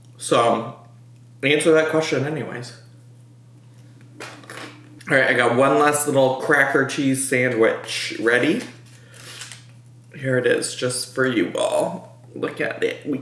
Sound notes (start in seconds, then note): 9.2 sniffs